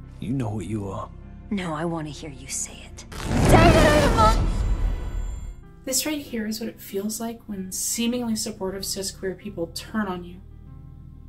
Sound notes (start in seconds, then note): 4.9 sword unsheathing sound